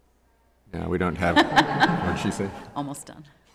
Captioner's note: laughing